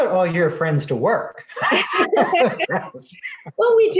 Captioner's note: laughing